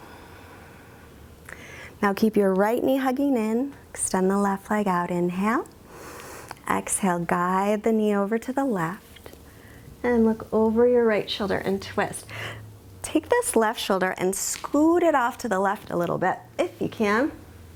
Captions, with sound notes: Now keep your right knee hugging in, extend the left leg out. Inhale (inhales). Exhale, guide the knee over to the left and look over your right shoulder and twist. Take this left shoulder and scoot it off to the left a little bit if you can